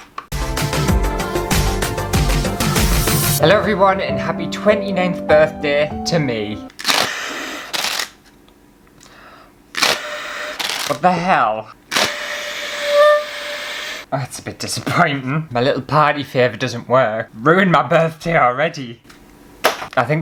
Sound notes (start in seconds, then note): 0.3 intro Music; 6.4 blowing; 12.0 weak Party Horn